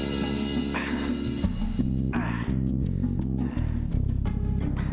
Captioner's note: Jake grunting